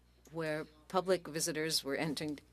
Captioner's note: speaking French